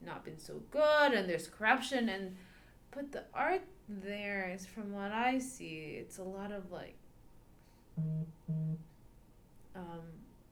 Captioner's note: phone vibrates